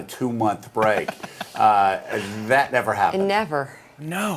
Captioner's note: laughs